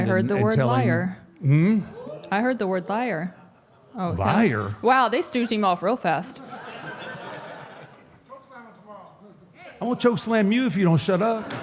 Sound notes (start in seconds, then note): 6.4 audience laughs